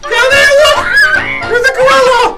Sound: assistant screaming

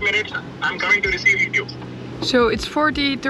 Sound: on phone

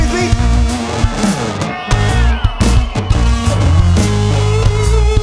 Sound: audience cheers

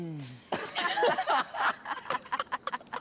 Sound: laughter

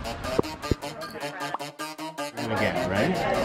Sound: quirky high energy music; popping notification tone

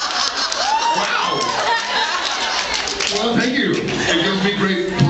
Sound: laughs; laughs and screams

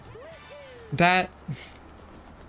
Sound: chortle

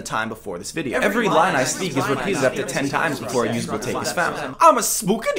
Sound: multiple voices

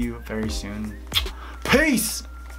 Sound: kissing

